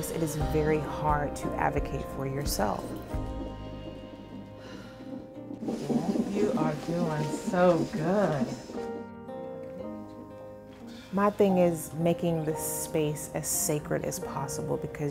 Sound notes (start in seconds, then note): 3.7 breathing heavily